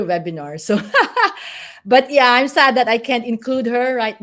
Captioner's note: laugh